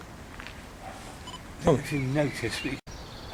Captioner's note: beep